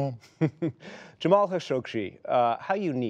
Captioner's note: laughter